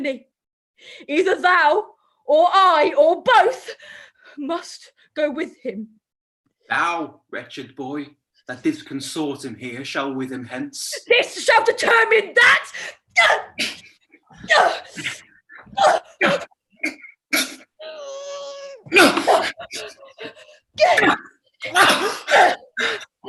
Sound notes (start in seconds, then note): 14.2 grunts